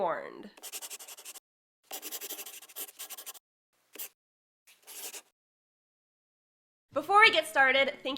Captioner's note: the sound of a pen scratching. LOGO